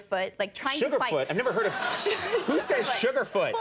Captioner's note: audience laughing